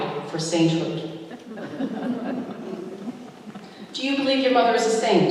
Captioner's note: laughter